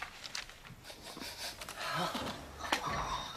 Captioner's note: sniffing